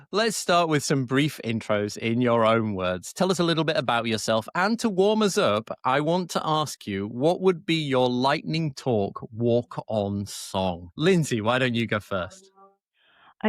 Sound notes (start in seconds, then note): none